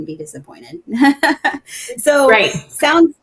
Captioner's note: laughing